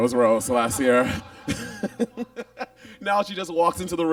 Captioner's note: Monet laughs